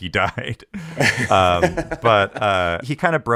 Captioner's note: laughs